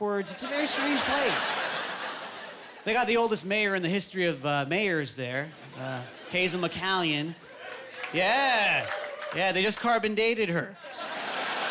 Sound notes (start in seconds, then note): 7.4 applauding